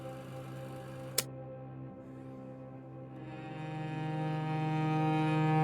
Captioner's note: film reel clicks off